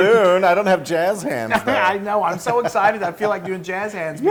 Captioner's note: laugh